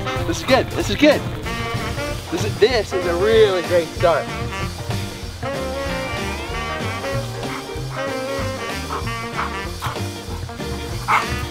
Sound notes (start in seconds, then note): 4.3 dog panting